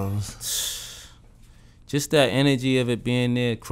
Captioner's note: sighs